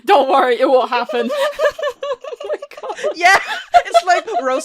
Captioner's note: laughing; laughter